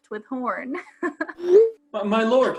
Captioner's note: text message sound effect